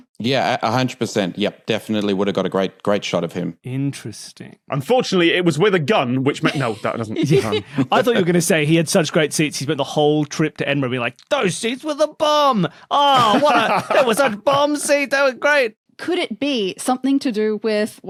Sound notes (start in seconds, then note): 6.3 giggles; 12.9 laughs heartily